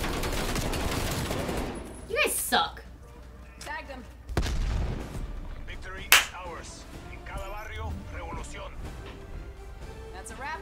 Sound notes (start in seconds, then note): 4.3 gunshot; 7.2 speaks foreign language